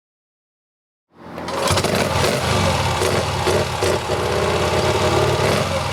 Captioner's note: motorcycle engine starting